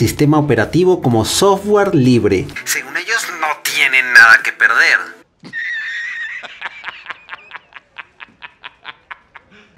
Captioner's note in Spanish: Jonah Jameson riéndose